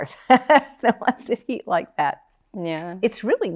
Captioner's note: laughs